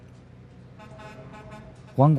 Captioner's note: truck horn honking